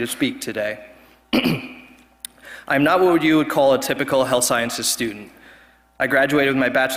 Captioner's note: cough